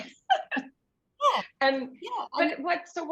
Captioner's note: shared laughter